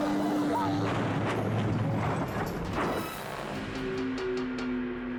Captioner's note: plane crashing